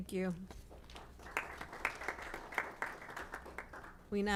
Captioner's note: applause